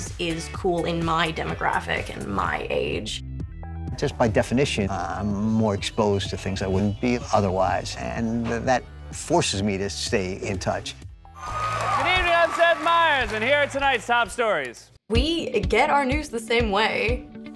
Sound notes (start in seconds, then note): 11.3 cheers; 11.4 applause